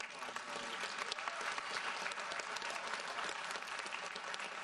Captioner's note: audience applauds